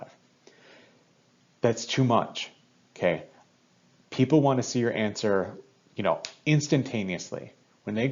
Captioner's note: snap noise